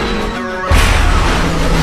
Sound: crash

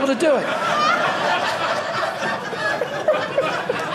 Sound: audience laughing

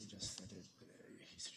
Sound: quietly

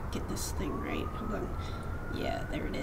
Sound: gasp

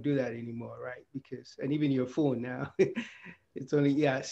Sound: chuckles

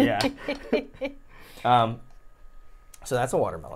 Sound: laughs

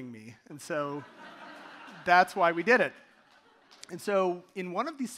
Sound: audience laughing

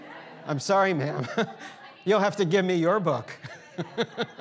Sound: laughs

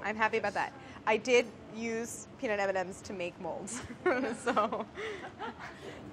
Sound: laughs

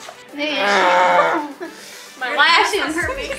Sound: grunts

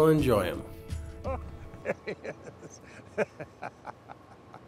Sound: laughing

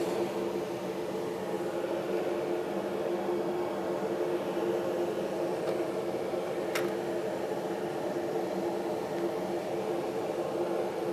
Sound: miter saw hums

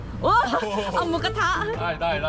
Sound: laughing

